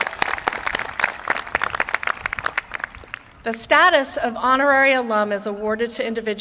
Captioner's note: applause